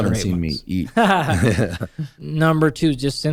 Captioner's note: laughter